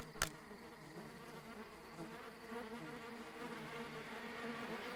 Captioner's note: swarms of flies